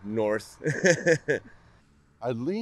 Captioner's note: laughs